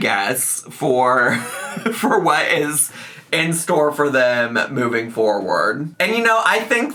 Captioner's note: laughs